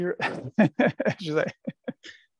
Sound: laughter

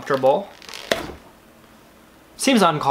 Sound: doll pops

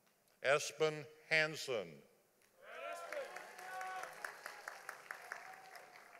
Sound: audience applauding

